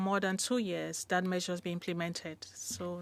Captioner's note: speaking French